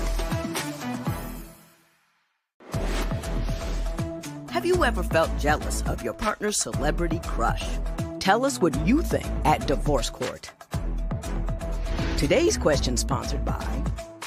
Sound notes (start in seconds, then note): none